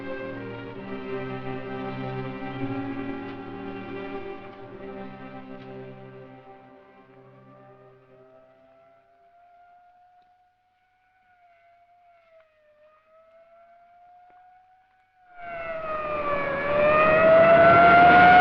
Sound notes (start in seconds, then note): 6.9 distant police siren wails; 15.8 police siren wails